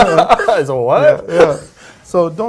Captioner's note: laughing